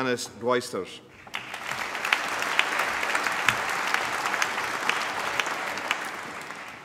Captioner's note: applause